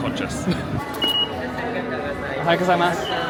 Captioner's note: sensor beeping